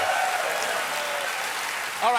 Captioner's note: applause